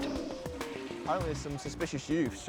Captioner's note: toilet flushing